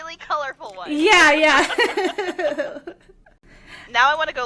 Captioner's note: laughter